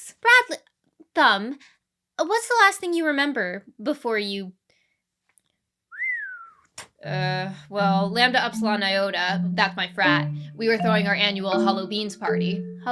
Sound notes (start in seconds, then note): 5.9 whistles